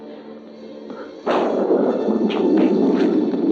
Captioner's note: thunder crashing